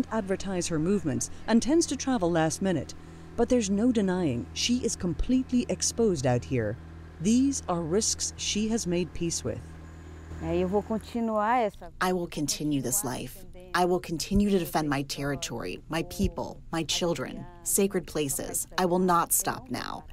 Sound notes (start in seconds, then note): 10.8 through translator